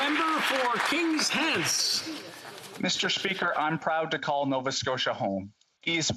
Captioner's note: applause